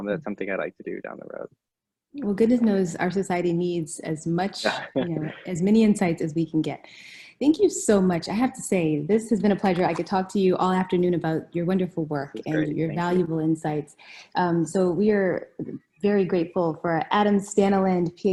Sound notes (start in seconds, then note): 4.6 laughing